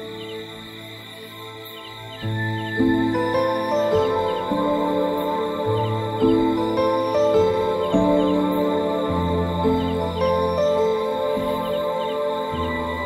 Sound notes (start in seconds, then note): 3.9 bells ringing; 7.6 soft ambient music